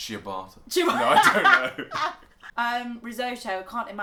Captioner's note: laugher